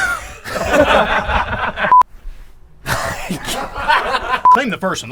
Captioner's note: laughs